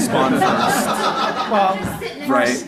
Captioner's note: audience laughing